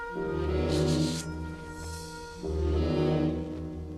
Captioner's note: blade scrapes